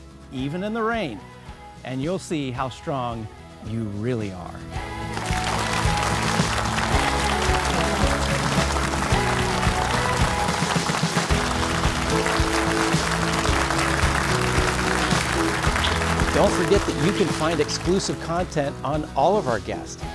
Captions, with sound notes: Be that shelter even in the rain, and you'll see how strong you really are. (upbeat music) (audience clapping) Don't forget that you can find exclusive content